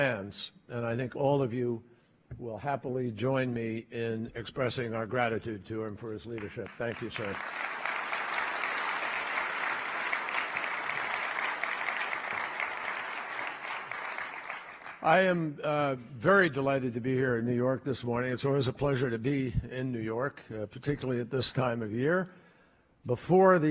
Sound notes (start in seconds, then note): 13.3 applause